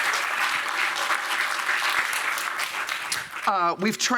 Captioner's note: applause